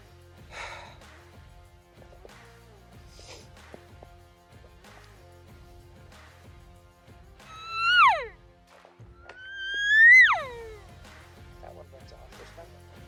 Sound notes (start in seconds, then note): 0.5 heavy sigh; 7.7 elk call